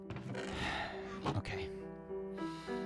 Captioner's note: sigh